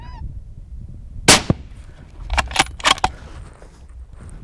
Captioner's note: gun shot